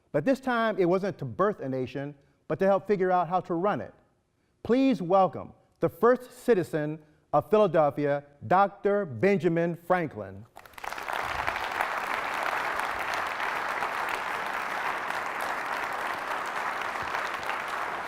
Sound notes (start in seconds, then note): 10.5 applause